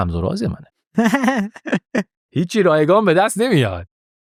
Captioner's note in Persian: خنده